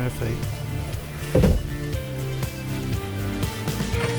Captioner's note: banging